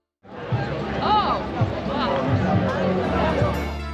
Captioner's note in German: Viele Stimmen und Geräusche